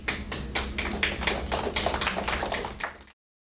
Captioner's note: applauding